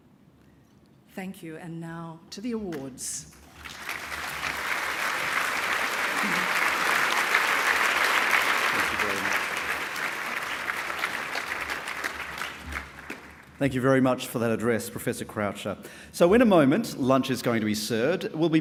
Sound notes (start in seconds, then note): 3.4 applause